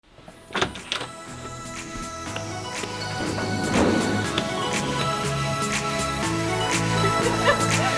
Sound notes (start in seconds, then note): 0.4 door unlatches; 0.7 upbeat electronic music